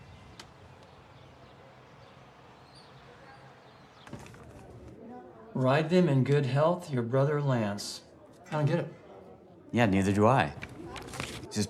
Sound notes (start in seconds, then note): 4.1 group chattering